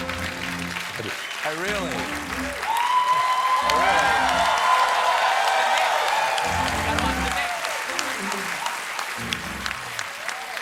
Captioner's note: cheers and applause; cheers